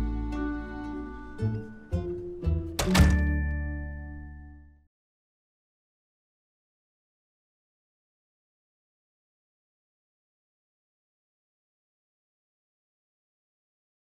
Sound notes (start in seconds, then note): 2.7 door closing